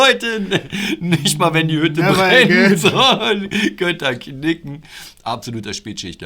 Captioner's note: laughter